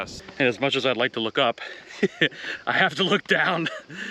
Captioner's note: chuckles